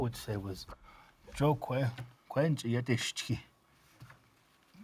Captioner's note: speaking Navajo